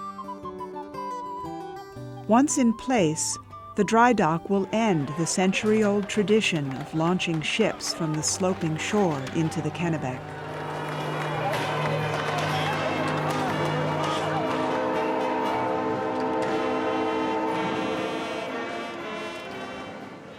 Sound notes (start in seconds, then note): 0.2 peaceful music; 11.3 band plays; 11.3 crowd mutters